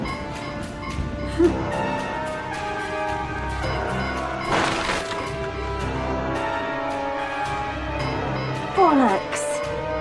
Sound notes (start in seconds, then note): 4.5 car crunching